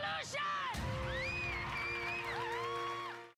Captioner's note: cheering